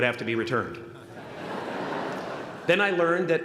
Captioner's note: laughter